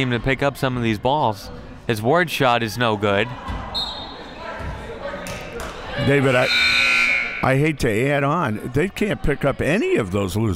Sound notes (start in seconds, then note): 3.8 referee blows whistle; 6.1 clock buzzes